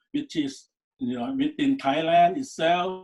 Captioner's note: none